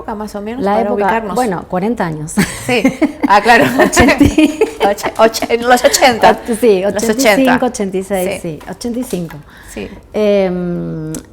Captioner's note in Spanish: risas